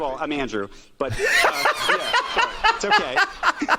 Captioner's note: laughs